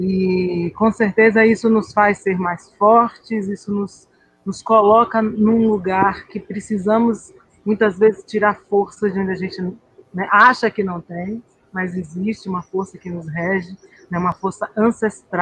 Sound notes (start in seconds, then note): 0.7 continuing conversation in Portuguese